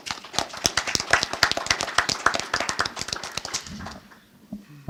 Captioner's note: audience applauding